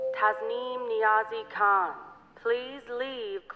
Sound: beep for Overhead Announcement

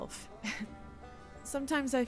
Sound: nervous laugh

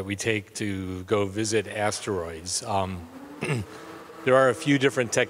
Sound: vibrating humming

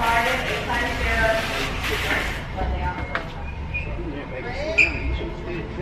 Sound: voice speaking over public address system

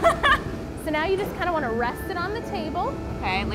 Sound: laughter

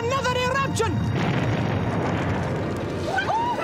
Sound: explosion

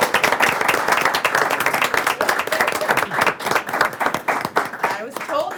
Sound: group clapping

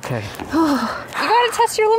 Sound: shivers and exhales

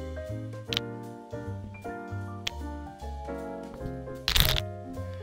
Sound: nuts cluttering

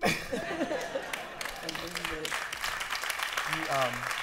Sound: laughter and applause

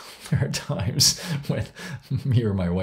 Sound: laughs

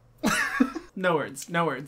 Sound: laughs

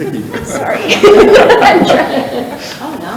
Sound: people chuckle

